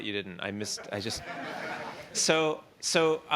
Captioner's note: laughter